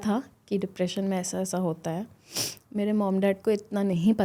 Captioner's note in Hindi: नाक से की जाने वाली आवाज़